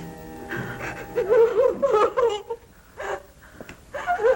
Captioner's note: weeping